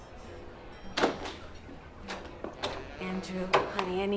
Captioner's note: door rattling